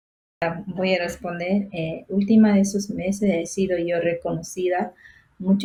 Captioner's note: speaking foreign language